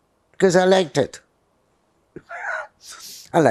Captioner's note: laughing